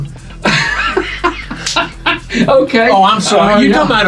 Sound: host laughing

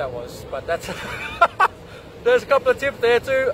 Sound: laughs

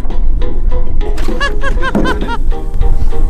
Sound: laughter

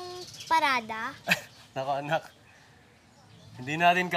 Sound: chuckles

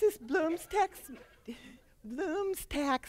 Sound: laughter

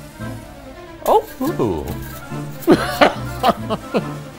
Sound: fast tempo music; laughing

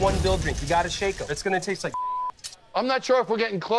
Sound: beep

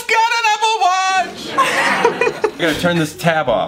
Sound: crowd laughs

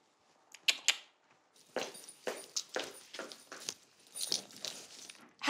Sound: mouth clicks; footsteps tapping

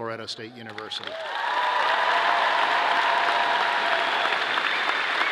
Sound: audience clapping

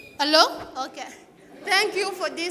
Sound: laughs

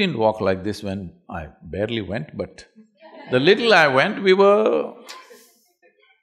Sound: laughter

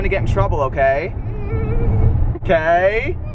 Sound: giggles

